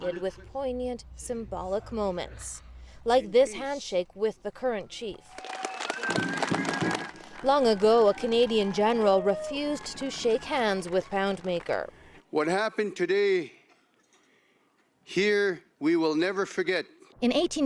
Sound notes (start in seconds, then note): 7.4 applause